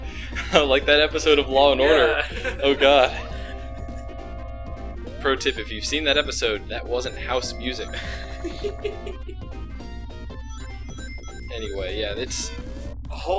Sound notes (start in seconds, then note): 7.9 laughs